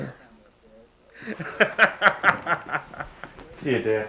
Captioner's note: laughs